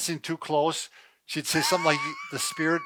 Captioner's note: laughing